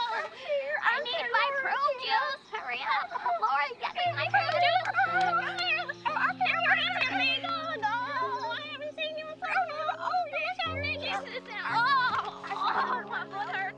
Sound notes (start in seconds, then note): 5.8 both mock stammering; 13.5 both laugh